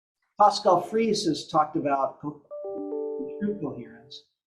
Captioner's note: computer sound